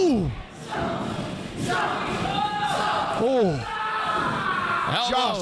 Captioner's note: audience chanting